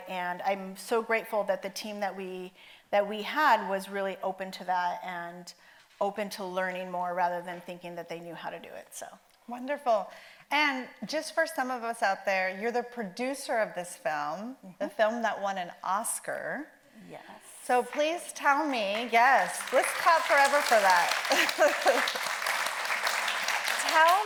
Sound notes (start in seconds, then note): 18.9 audience member applauds; 21.3 audience applauds